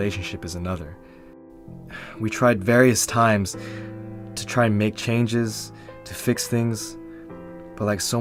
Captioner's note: sigh